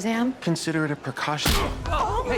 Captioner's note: grunts